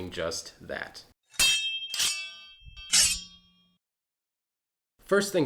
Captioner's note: metal clanging